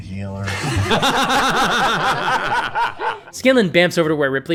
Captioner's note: laughter